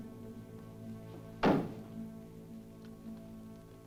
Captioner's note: ominous music; bang